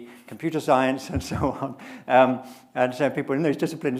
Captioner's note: chuckling